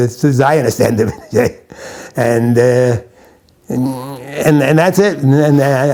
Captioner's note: chuckles